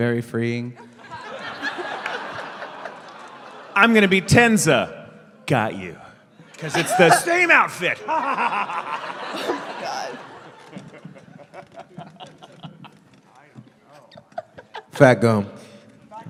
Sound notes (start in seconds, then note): 0.8 laughter; 6.7 maniacal laughter; 9.4 laughter